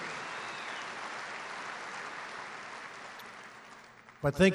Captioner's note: applause